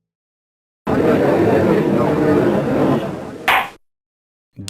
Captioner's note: crowd noises